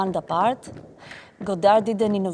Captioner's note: dancers tap dancing